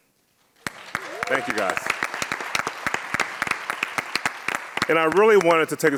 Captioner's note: audience cheers and claps